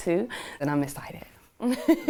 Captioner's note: laughter